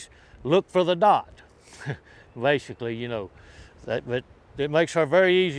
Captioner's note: laughs